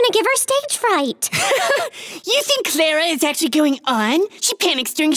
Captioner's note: laughing